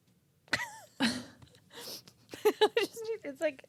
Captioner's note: laughing